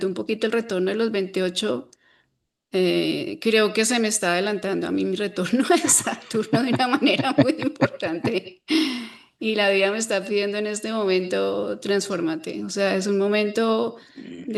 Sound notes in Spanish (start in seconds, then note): 5.7 risas